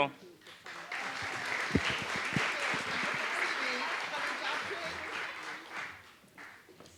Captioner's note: applause